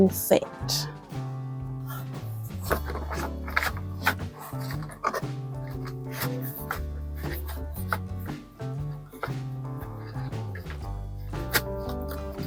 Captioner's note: card shuffling, gentle guitar music